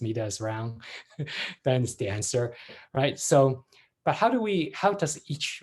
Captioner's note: laughs